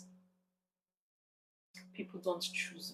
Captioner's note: paause